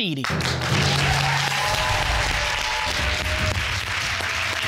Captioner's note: all applauding